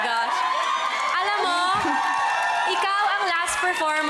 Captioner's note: crowd cheering